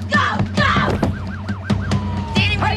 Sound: sirens blaring

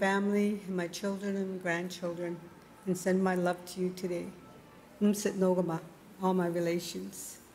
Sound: speaking Indigenous LANGUAGE

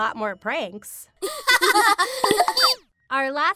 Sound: Chelseas laugh

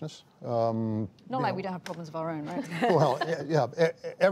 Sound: laughter

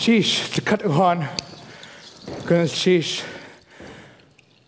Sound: foreign speaking

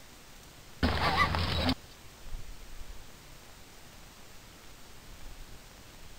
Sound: sling swooshing through air

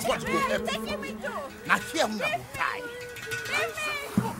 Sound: all speaking in foreign language

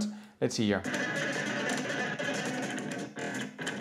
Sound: sound effects

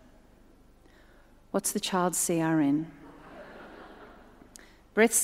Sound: audience laughs

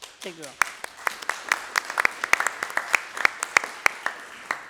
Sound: applause

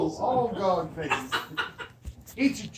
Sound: laughter

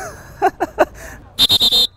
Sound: laughs; whistle blows

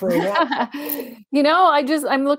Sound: chuckle

